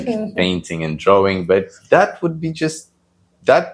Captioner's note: laughs